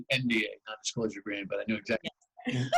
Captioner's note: laughter